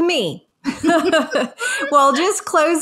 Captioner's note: all chuckling